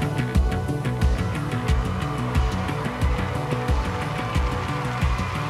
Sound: crowd cheering

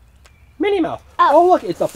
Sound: voiceover

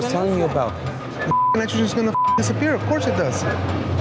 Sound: beep

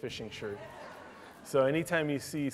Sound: laughter

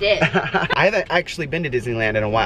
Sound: laughs

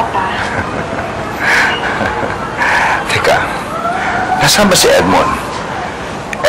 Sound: chuckles

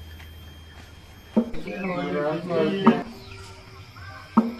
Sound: speaking Indonesian

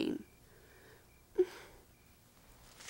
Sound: sighs

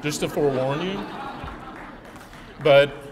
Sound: laughing

